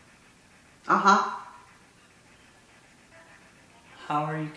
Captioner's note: mumbles mhm